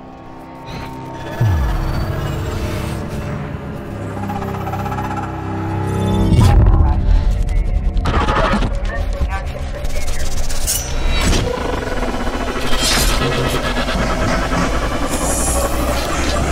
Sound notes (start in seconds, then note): 1.4 eerie static; 9.7 static continues; 13.2 whirring intensifies